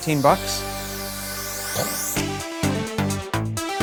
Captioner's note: he mimics an explosion